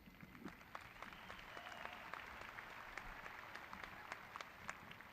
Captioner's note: graduates cheering